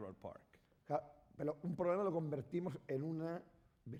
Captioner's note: speaking spanish